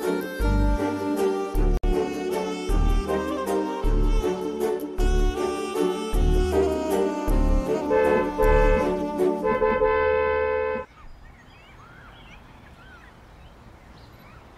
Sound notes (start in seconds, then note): 7.6 honking